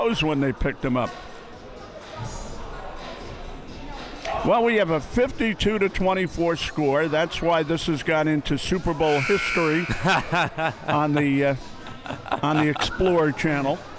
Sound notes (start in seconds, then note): 9.1 buzzer sounding; 13.7 laughing